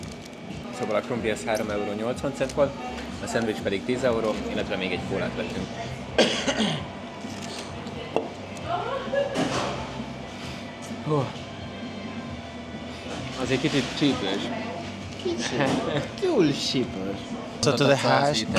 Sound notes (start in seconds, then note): 6.1 coughing